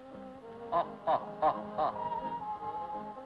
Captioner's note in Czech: Smích